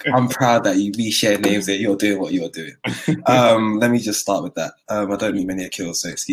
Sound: laughter

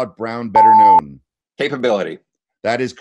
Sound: loud beeping noise

